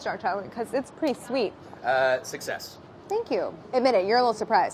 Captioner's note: none